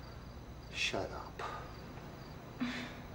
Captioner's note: Carlos sighing